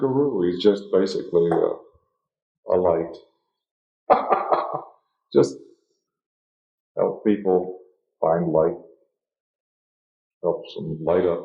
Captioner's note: laughs